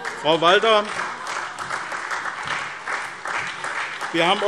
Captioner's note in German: Beifall SPD und vereinzelt DIE LINKE